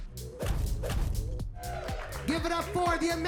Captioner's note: graphic whips; text whips; crowd applauds